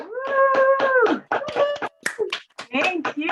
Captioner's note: applause